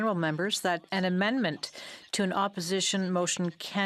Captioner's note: speaking in French